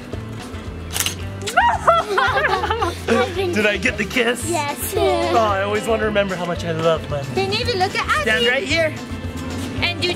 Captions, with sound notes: (camera shutter clicks) (mom laughs) Did I get the kiss? - Yes, you did. - Oh, I always wanna remember how much I love my- - Hey Navy, look at Adley. - Stand right here.